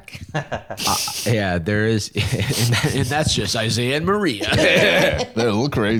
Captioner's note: laughs